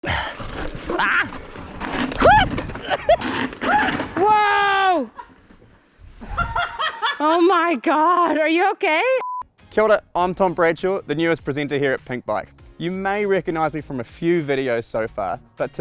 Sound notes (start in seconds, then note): 3.6 screams; 6.3 laughs